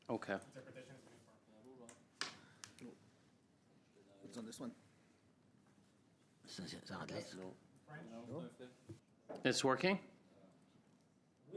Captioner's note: speaking French